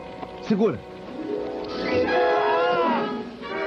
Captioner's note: screams